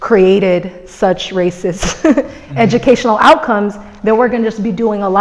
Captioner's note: laughs